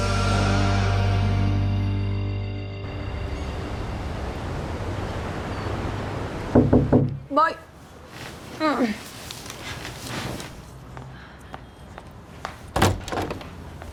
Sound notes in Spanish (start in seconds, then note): 6.5 Tocan a la puerta